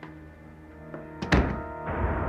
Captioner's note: pintu tertutup